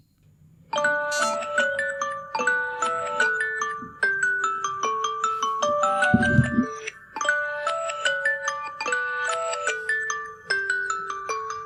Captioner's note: sound from smartphone